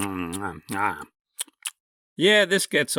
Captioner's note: intense chewing; chewing continues